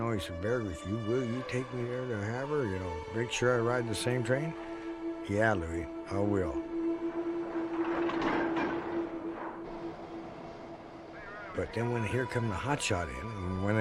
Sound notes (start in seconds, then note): 7.8 train clatters